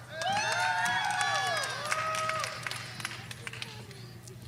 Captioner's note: audience cheering